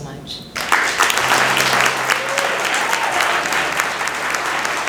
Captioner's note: applause